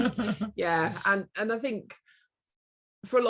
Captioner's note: laughs